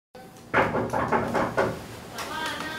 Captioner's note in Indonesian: Door Knocking